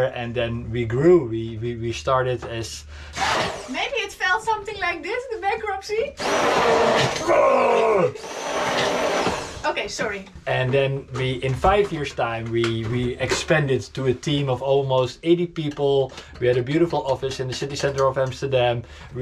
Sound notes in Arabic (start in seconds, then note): 3.3 ضوضاء طنين; 6.1 طنين الخلاط